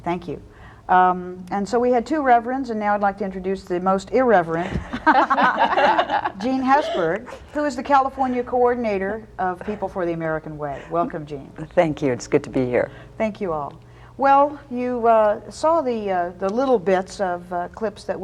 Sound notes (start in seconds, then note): 4.7 all laughing